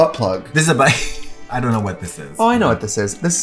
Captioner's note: laughs